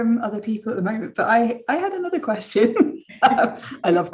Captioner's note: chuckles